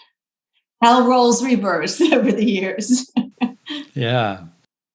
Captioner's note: laughs